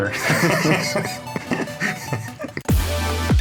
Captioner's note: both laughing; upbeat music